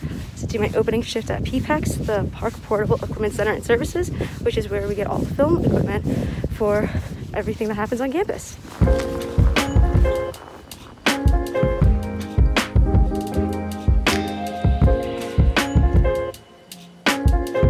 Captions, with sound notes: to do my opening shift at PPECS, the Park Portable Equipment Center & Services, which is where we get all the film equipment (wind whips) for everything that happens on campus. (mellow music)